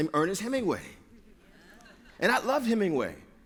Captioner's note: laughter